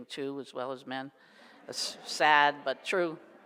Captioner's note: audience laughs